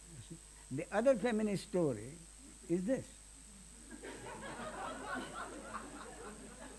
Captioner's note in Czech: smích